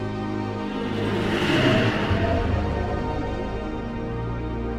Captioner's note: spacecraft whooshes